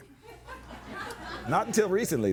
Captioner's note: audience laughing